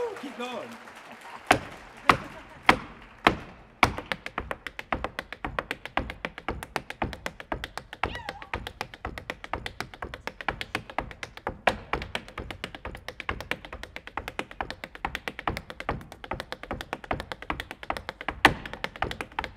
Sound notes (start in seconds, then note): 0.0 audience cheers; 1.5 shoes rhythmically tapping